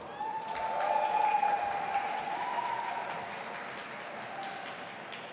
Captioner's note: audience applauding and cheering